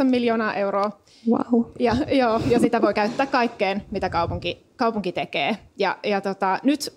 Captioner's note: laughs